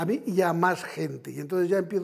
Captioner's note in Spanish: con énfasis